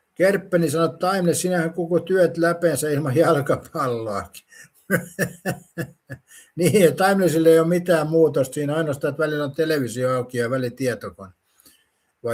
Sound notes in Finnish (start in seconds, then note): 4.8 naurua